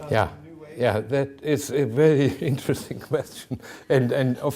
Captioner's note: chuckling